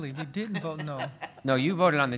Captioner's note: laughter